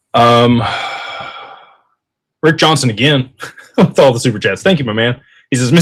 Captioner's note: sighs; laughter